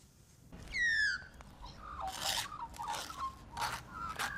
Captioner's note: birds screeching